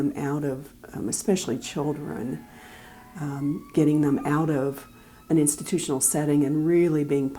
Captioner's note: background siren